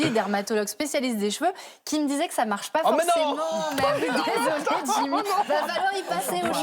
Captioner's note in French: rires